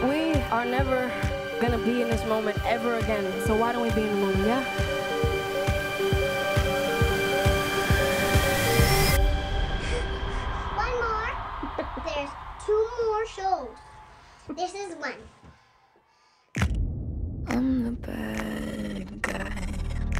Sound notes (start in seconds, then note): 11.6 chuckles; 11.6 woman chuckling